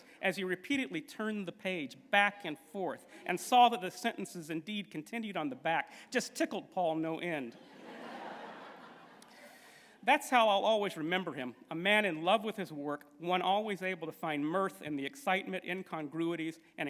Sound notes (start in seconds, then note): 7.5 laughter